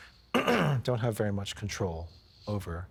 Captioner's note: clearing throat